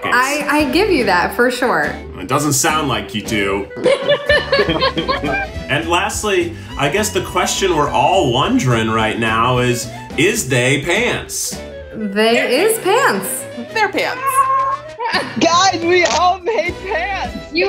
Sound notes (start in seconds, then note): 3.7 laughing